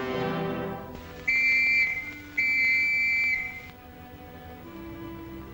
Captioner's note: dramatic music; whistle blows; soft solem music